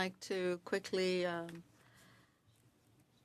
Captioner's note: speaking French